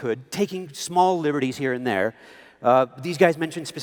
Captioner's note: none